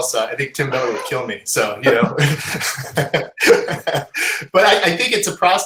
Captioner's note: laughing